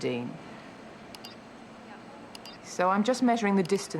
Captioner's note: computer chirps